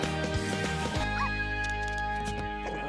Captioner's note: dog barks; dog growls